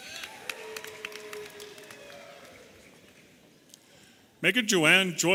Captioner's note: audience applauding and cheering